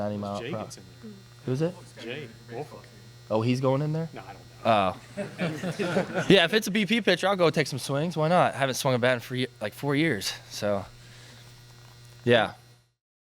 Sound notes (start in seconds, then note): 5.0 laughter